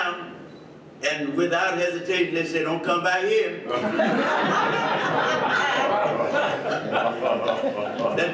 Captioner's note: audience laughs